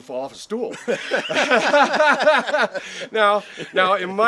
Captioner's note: laughing